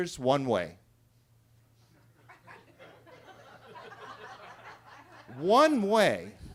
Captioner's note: attendees laughing